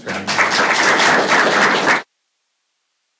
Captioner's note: applause